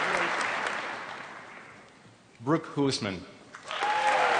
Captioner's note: applause; applause